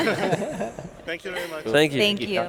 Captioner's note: laughing